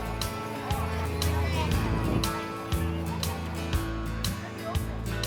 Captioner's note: attendees chattering